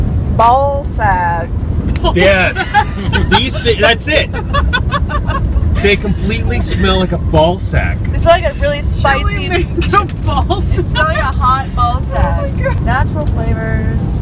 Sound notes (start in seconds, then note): 2.1 laughing